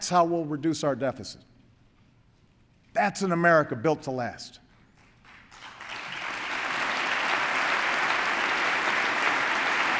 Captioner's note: applause